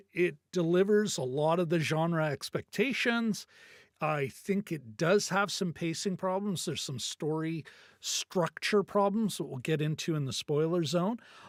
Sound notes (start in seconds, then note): none